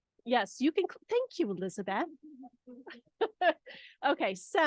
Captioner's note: laughs